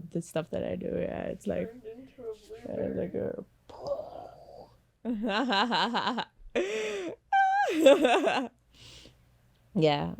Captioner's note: big muscle sound effect; laughs